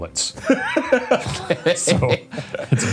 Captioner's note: laughs